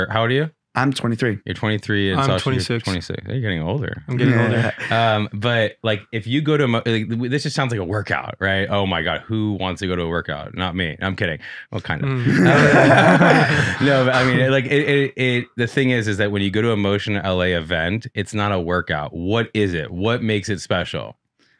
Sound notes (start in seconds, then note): 4.0 chuckles; 12.0 group laughing